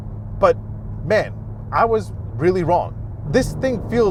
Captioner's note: engine roaring